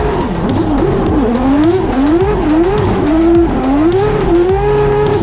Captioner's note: race car revving continues